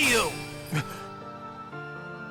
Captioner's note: soft gasp